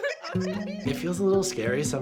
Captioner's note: laughter